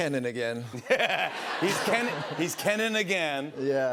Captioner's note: laughs